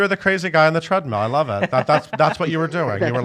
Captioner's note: laughs